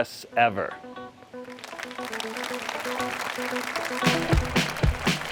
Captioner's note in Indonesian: Tepuk tangan